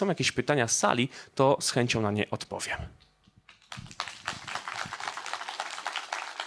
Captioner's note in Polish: oklaski